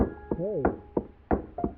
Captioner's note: muffled voice